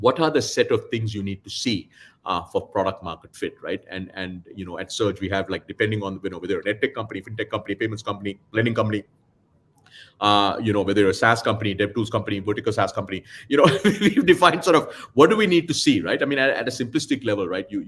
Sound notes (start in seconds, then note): 13.8 laughs